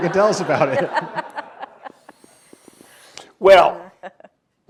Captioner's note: audience laughs